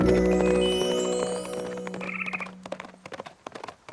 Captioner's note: squirrel chitters